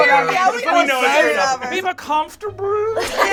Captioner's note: overlapping chatter and laughter